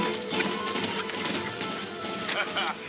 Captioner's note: laughing